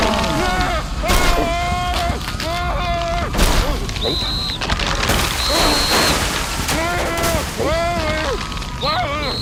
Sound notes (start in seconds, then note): 0.0 frantic yelling; 3.9 whistle blows; 6.7 groaning; 8.8 blows whistle